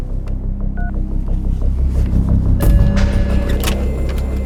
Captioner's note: phone beeps